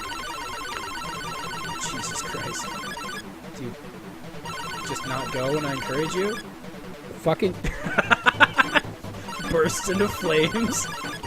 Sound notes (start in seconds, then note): 7.6 hearty laughter